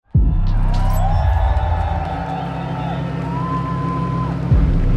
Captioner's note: crowd cheering